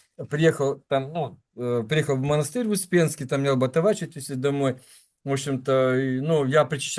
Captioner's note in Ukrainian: сопіння